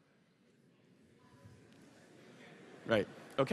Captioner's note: audience murmurs